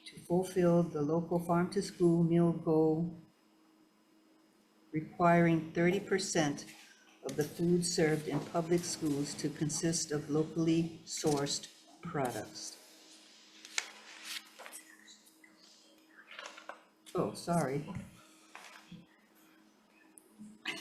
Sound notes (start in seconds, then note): 13.5 paper rustling